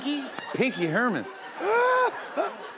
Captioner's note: laughter